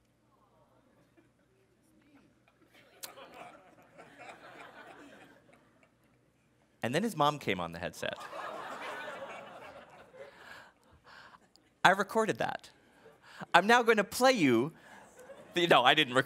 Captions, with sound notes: (laughing) And then, his mom came on the headset. (laughing) I recorded that. I'm now going to play you.